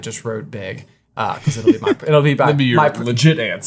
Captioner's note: chuckling